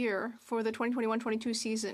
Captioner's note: speaking French